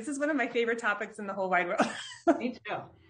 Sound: laughs

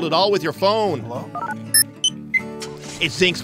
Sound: beeps everywhere

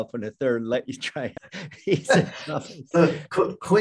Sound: laughing

